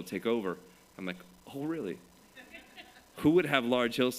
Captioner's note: laughter